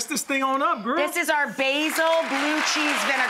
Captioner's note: applause